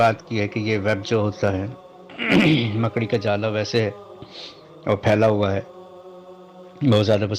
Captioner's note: nasal sound